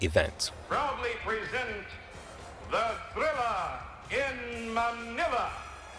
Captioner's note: soundbite of archived recording